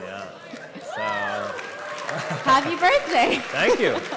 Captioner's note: cheering and Applause